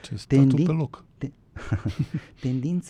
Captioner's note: laughter